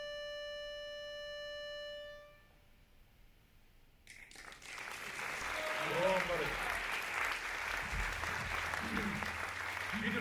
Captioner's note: applause